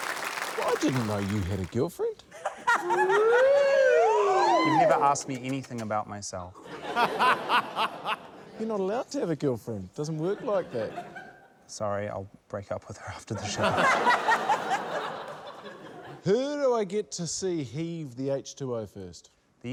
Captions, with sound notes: - I didn't know you had a girlfriend. - (LAUGHTER) - Ooh! - Ooh! - You never ask me anything about myself. - (LAUGHTER) - You're not allowed to have a girlfriend. - It doesn't work like that. - Sorry. I'll break up with her after the show. - (LAUGHTER) - Who do I get to see heave the H2O first?